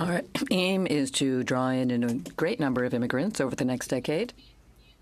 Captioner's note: speaking French